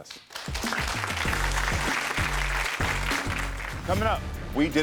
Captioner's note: audience applauds